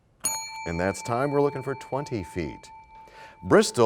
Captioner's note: bell rings, time expires